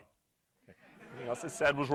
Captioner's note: crowd laughing